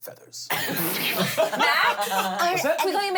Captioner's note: everyone laughs